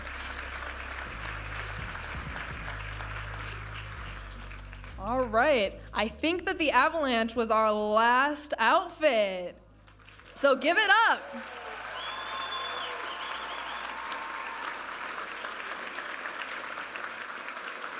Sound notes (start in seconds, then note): 0.0 audience applauding; 2.6 upbeat music; 10.9 audience applauding and cheering